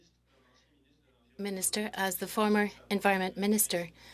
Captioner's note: speaking French